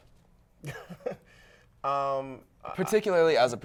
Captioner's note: laughing